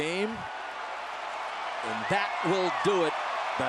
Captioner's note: cheering